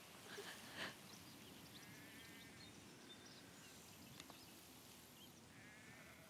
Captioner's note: blodeuwedd gasps tearfully